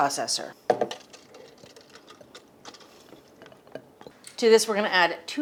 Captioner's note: mustard seeds squelch